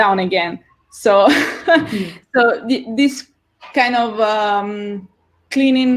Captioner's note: laughs